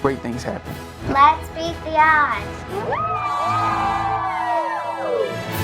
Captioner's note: group cheering